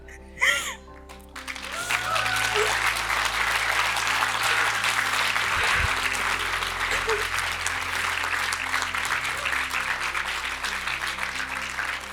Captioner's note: cheers and applause